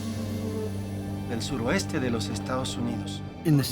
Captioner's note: speaking Spanish